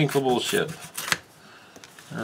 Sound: tearing sounds

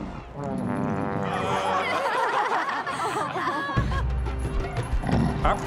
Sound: laughing

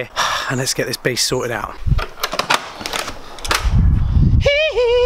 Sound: sigh

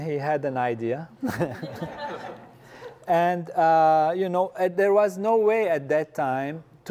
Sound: laugh

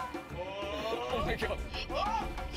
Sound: screaming

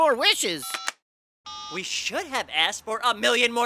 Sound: beeps

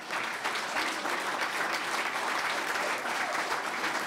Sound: clapping

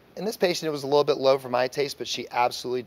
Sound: none

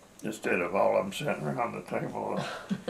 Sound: laughter

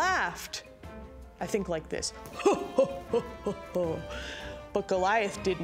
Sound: laughs heartily

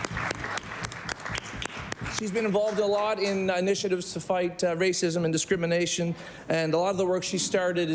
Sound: applause

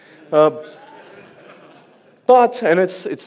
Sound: audience laughs

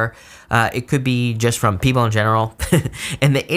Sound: chuckles

